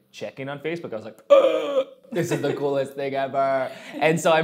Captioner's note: gasps